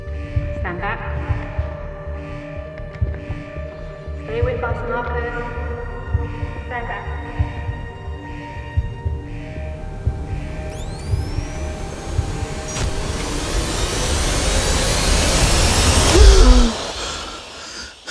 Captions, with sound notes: Stand back. Stay with us, Marcus. Stand back. [ DEFIBRILLATOR WHIRRS ] [ GASPS ]